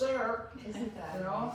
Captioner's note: laughs